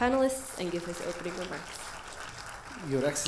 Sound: audience applauding

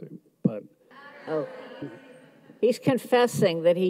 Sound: audience mumbles

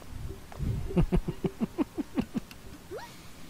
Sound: giggling

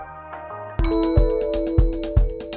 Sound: elevator music; upbeat music; elevator ding

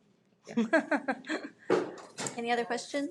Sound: chuckles

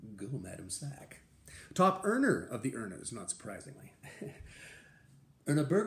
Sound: laughter

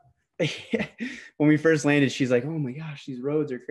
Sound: laughs

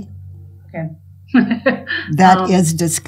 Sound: giggles

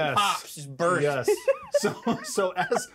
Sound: laughs

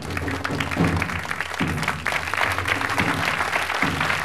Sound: audience applauding

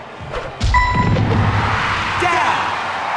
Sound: electronic chime; audience cheering

